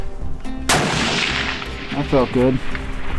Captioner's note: gun fires